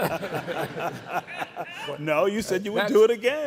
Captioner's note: all laughing